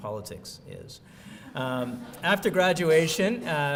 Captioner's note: laughs